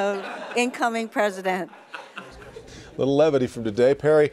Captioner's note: laughter